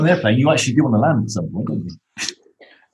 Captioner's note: laughs